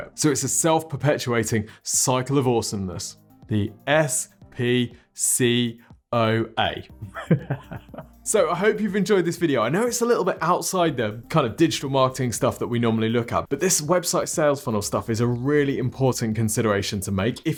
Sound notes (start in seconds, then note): 7.0 laughs